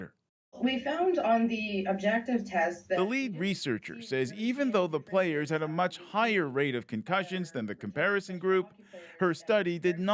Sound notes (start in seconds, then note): none